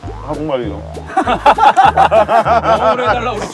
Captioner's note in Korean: 폭소